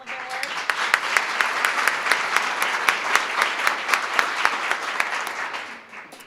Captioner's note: applause